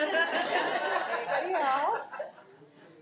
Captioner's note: crowd laughing